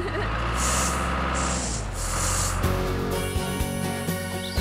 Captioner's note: engine Running